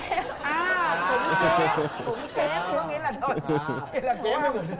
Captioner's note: laughing